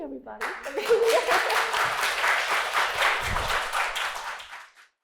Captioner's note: applause